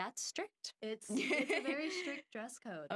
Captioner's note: laughing